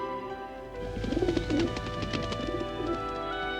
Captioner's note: fluttering